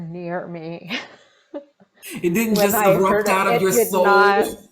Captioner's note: chuckling